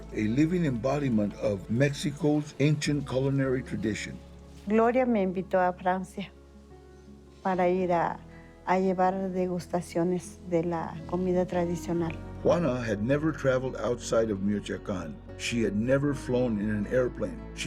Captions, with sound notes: A living embodiment of Mexico's ancient culinary tradition. [in Spanish] Gloria invited me to France to provide samples of traditional food. [in English] Juana had never traveled outside of Michoacán. She had never flown in an airplane.